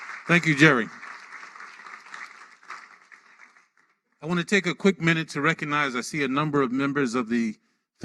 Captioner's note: applause